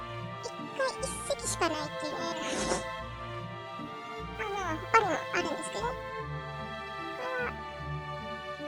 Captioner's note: laugh